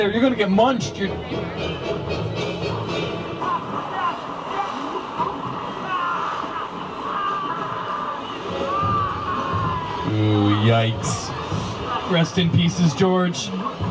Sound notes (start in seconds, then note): 0.8 suspenseful music plays; 5.9 person screams